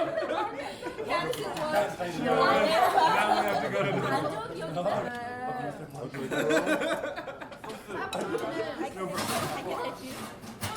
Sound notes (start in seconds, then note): 4.1 indistinct chatting